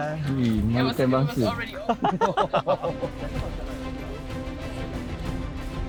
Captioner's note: laugh